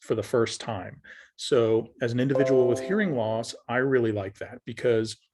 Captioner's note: ping sound